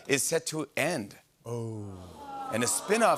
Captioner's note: audience groans